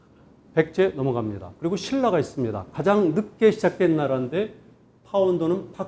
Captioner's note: speaking in Korean